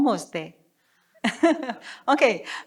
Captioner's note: chuckles